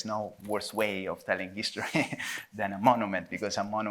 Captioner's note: chuckles